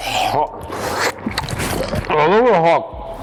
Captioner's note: potato crunching